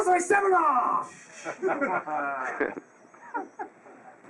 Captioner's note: laughing